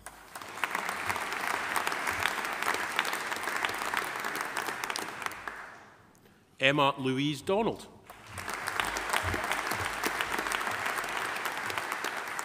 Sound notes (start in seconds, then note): 0.0 audience applauding; 8.0 audience applauding